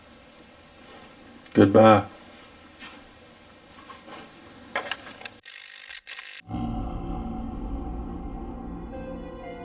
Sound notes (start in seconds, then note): 5.7 static fizzing; 6.4 eerie music